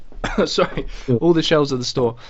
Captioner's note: coughs